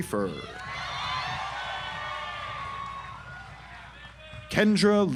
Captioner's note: audience applauds